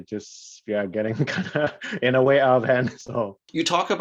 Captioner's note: chuckles